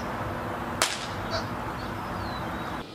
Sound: capacitor Pop

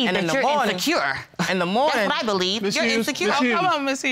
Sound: scoffs

